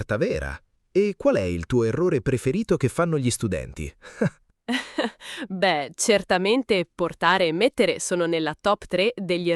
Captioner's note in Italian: risate